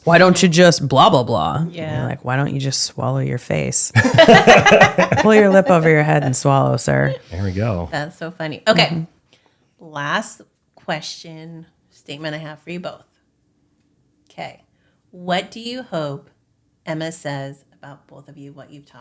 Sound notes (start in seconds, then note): 3.9 laughing